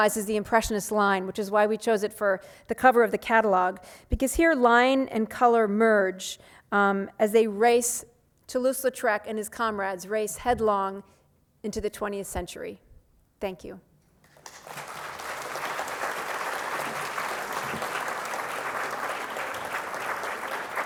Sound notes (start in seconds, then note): 14.2 applause